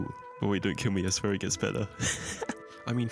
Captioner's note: nervous laughter